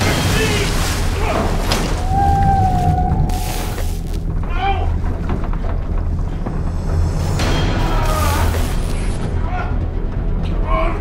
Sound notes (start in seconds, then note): 1.0 grunts; 1.5 door thuds; 2.0 creature howling; 5.3 suspenseful music; 7.7 grunting